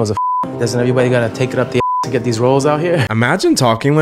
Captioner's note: beep; beep